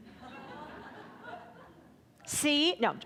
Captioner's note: audience laughing